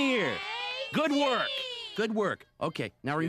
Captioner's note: kids cheer